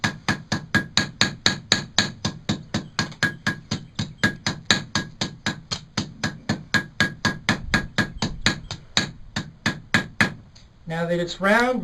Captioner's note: hammering noises